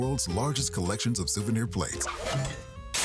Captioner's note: crash